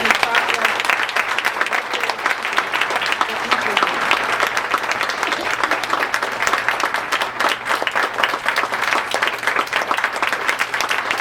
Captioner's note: applause